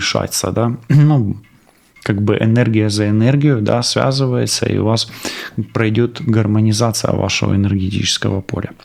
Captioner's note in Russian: откашливается